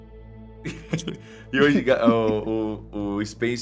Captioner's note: laughing